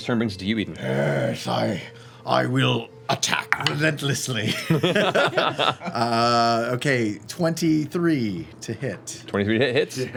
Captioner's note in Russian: рычит